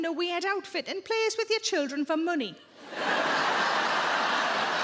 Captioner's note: crowd laughs